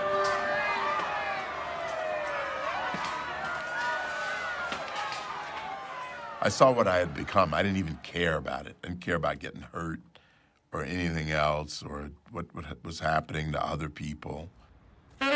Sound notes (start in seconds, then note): 0.0 siren wailing